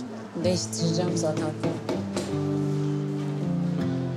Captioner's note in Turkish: Kapıya vuruyor